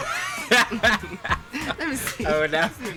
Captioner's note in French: Rires